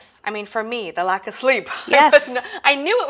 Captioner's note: laughs